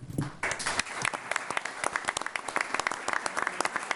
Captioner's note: applause